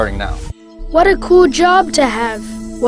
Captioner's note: voiceover